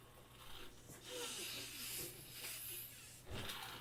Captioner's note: breathing